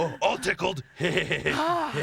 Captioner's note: chuckles; sighs